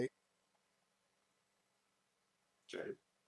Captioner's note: silence